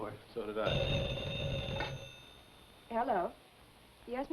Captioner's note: phone ringing